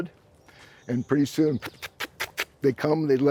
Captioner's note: smacks